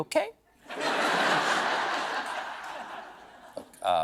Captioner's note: laughter